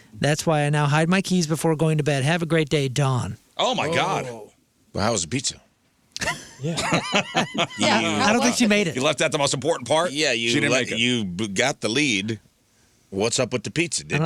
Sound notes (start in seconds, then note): 6.2 laughing